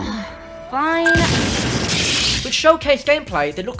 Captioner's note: explosion